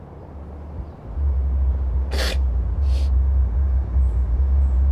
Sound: distant sinister sounds

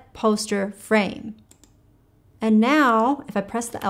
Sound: mouse clicking

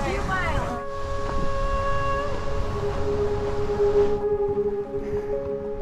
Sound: wind blowing briskly

